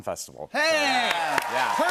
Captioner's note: cheers and applause